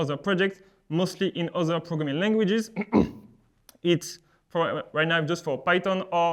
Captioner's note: clears throat